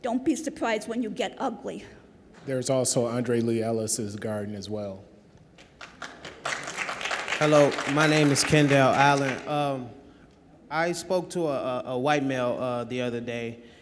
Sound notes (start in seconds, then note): 5.6 audience applause